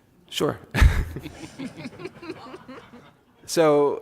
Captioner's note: laughs